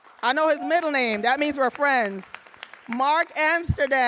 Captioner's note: audience applauding